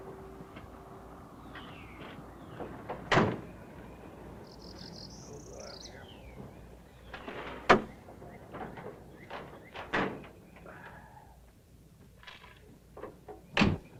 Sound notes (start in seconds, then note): 3.0 car door; 7.2 car door - car hood